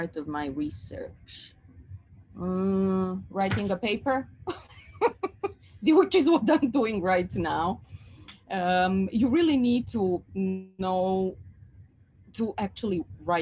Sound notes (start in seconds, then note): 4.8 laughs